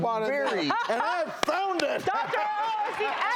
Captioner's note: laughs